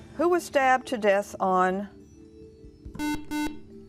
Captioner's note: beeping